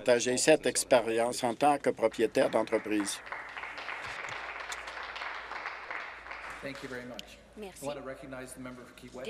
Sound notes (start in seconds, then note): 5.9 some Applause